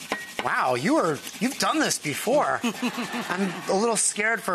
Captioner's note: audience laughs